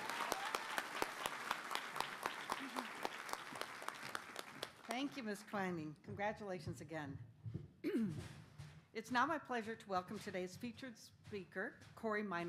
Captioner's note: applause